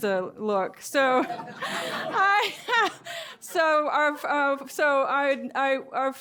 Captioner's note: laughter